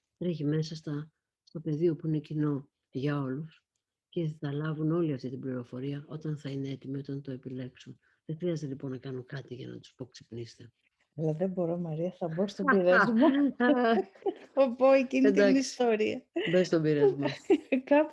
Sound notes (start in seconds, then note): 12.6 laughs